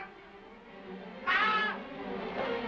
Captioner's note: odd voice; voice screams; suspenseful music